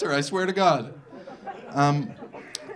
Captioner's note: audience laughing